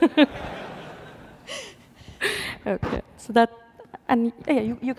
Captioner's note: laughter